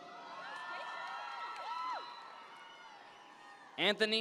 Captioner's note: audience members cheer